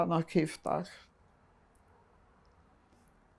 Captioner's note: pauses 10 seconds